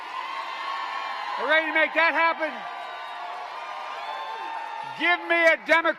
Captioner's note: applause